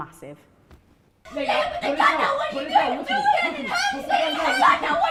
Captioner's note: collective yelling